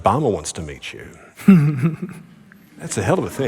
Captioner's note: Ta-Nehisi Coates Giggles